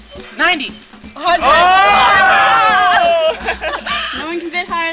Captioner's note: background cheering